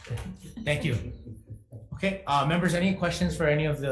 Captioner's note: chuckling